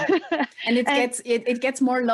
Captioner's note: laughs